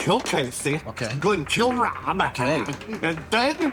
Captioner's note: simulates choking